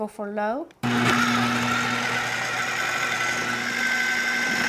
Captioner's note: processor whirring